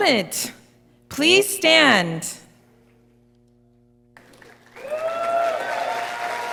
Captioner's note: audience applauding